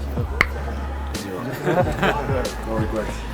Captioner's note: Gary clicks tongue; group laughter